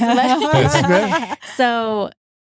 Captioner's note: laughing